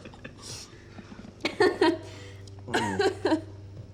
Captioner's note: friends laugh; Jane laughs